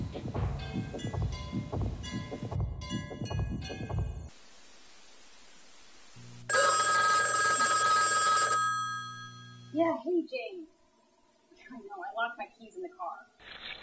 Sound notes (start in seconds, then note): 6.4 phone rings